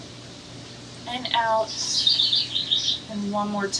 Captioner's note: bird chirps